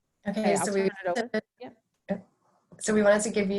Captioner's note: static drains out speaker